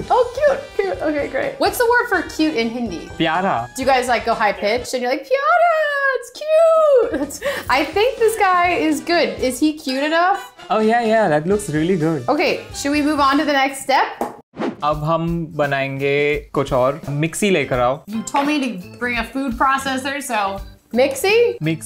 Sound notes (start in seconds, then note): 3.2 speaking in Hindi; 14.9 speaking in Hindi